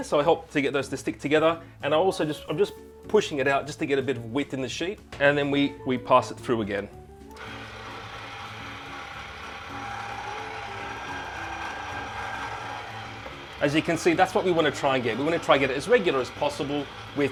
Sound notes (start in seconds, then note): 7.7 machine whining